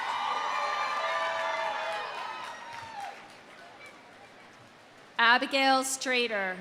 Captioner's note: audience cheering; audience applauding